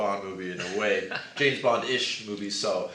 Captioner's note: laughs